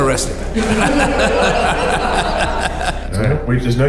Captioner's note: group laughing